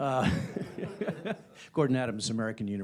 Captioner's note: laughter